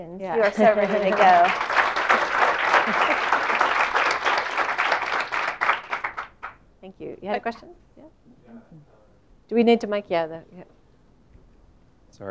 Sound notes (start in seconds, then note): 0.3 applause